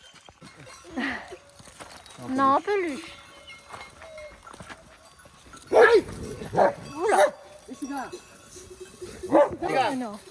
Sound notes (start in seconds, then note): 2.7 fierce barking